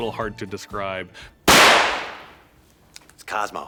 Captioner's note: gunfire popping